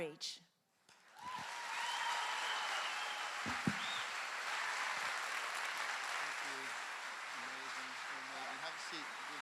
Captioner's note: clap with Cheering